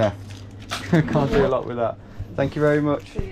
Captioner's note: laughs